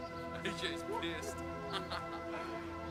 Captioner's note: laughing